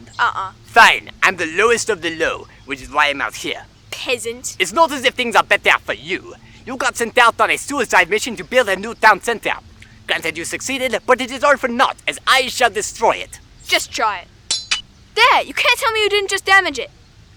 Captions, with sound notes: Uh-uh. Fine, I'm the lowest of the low, which is why I'm out here. Peasant. It's not as if things are better for you. You got sent out on a suicide mission to build a new town center. Granted you succeeded, but it is all for naught, as I shall destroy it. Just try it. [building damage sound] There, you can't tell me you didn't just damage it.